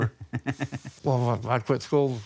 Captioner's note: laughing